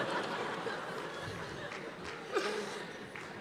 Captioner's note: cheers and applause; laughter